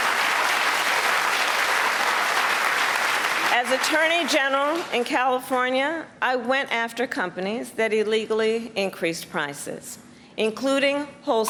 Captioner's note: applause